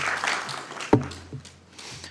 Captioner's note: applause